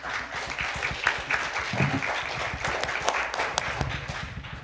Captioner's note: audience applauding